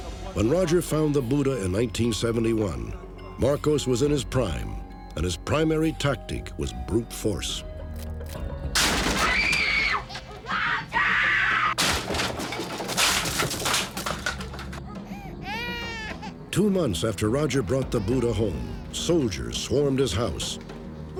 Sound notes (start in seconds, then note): 8.4 non-english speech; 8.4 screaming; 8.7 breaking window